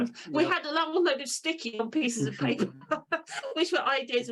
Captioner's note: laughs